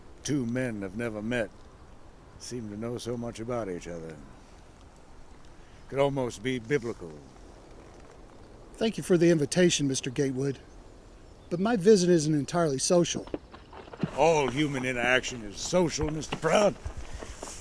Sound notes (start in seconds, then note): none